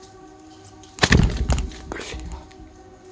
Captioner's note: stammered